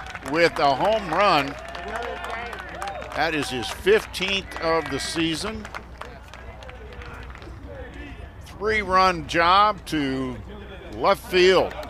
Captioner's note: applause